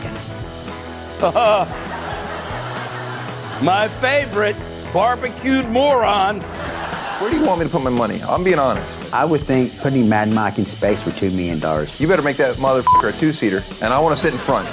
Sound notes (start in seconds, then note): 1.5 laughs